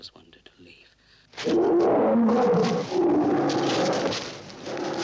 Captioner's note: gorilla howls